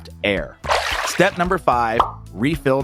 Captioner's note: water sloshing